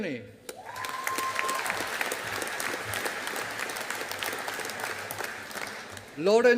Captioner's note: audience applauding